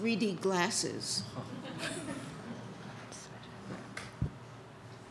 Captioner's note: audience laughs